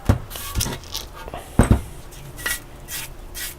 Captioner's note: brush scraping; pot clanks